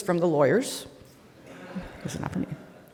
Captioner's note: audience laughing